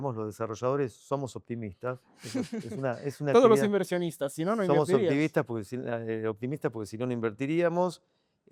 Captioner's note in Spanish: risas